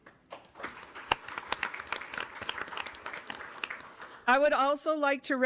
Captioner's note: audience applauding